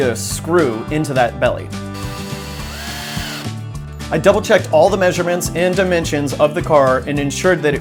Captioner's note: drill sounds